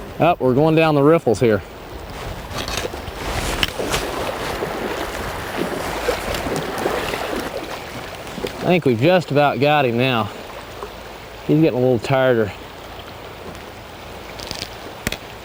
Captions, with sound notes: ah we're going down the riffles here [splashing] I think we've just about got him now he is getting a little tried